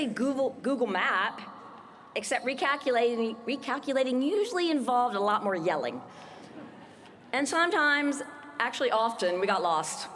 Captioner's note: laughter